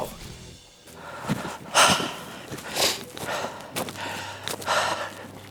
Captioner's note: breathing deeply